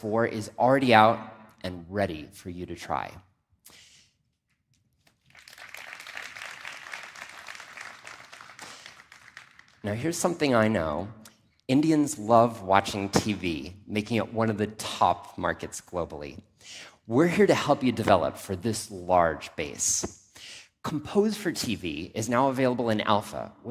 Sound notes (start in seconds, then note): 5.1 applause